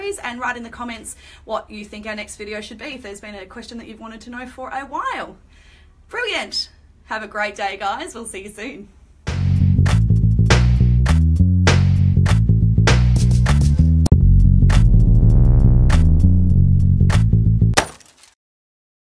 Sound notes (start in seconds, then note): 9.3 funky music; 17.7 glass breaking